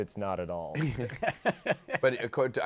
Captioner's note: laughter